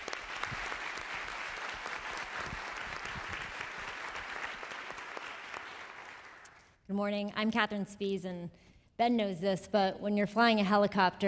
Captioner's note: applause